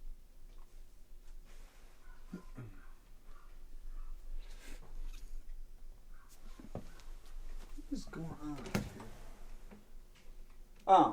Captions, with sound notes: (dog yelping in the distance) What is going on?